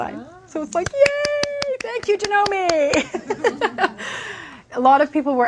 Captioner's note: clapping